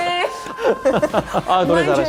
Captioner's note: laugh out loud